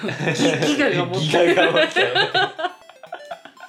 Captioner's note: laughter